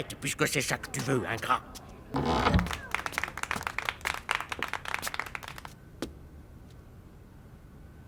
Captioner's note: applause